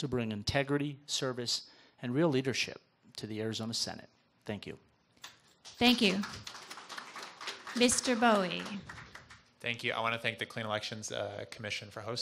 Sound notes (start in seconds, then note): 5.8 audience applause